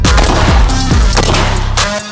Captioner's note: gun bangs; rock music